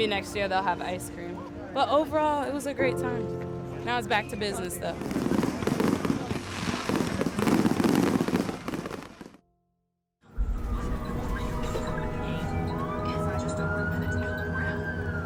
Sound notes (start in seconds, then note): 4.9 fireworks exploding; 12.0 sirens